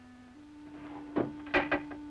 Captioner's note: none